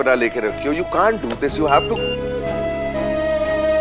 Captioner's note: Phone ringing